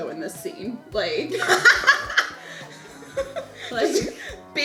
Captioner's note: laughing